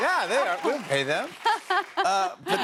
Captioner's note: laughs